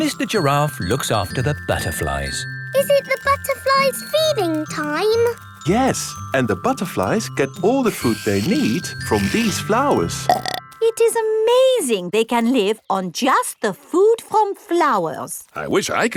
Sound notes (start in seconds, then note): 10.1 burps